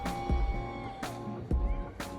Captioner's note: audience members cheering